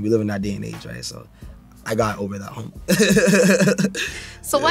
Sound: laughs

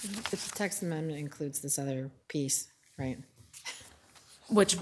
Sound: chuckles

